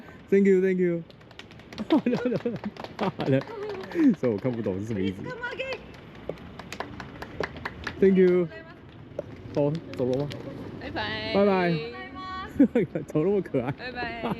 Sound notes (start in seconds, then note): 1.0 everyone applauding